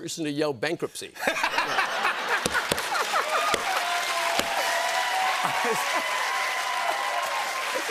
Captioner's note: laughter and applause